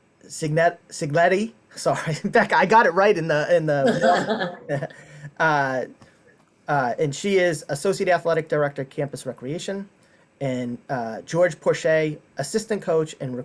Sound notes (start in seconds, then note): 3.8 laughing